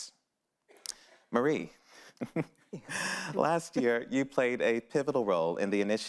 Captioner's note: laughs